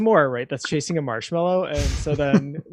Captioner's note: laughing